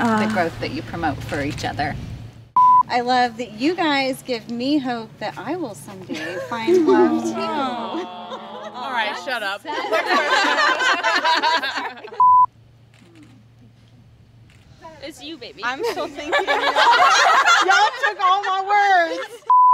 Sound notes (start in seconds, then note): 9.6 laughing; 12.8 camera shutters; 15.8 laughing